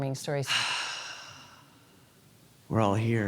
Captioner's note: sigh